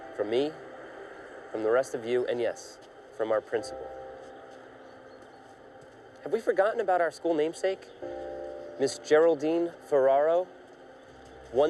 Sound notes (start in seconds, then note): none